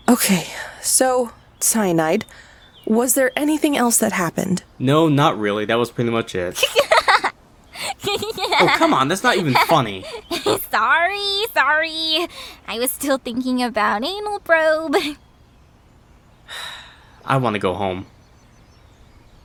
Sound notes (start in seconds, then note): 7.7 snickering into laughing again; 16.5 sighs